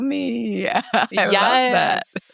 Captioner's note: laughs